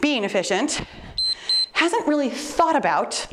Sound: timer beeps

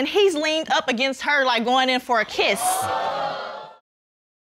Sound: audience gasps

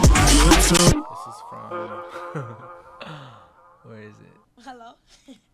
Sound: chuckles

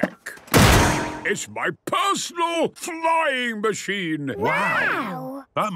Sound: clangs

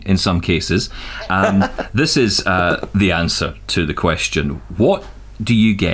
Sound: laughter

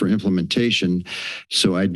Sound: inhales

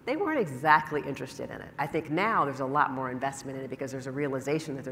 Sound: none

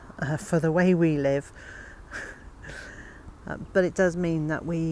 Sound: laughing

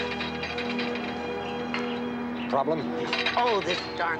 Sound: chain door opening

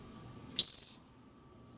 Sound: high pitch sound

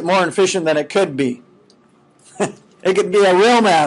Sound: chuckling

